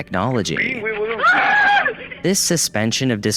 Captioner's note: cameraman screams